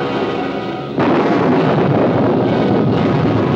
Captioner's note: thunder